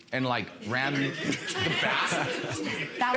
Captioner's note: audience laughs